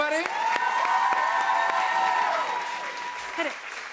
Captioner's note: cheers and applause